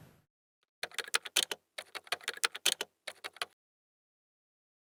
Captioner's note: typing